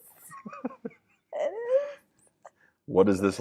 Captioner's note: laughing